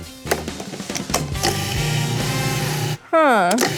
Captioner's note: food processor humming